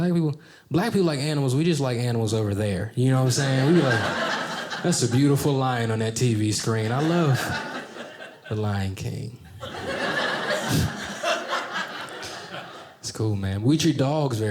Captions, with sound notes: black people like animals. We just like animals over there, you know what I'm saying? We'd be like, that's a beautiful lion on that TV screen. I love the Lion King. (audience laughing) That's cool, man. We treat dogs very differently,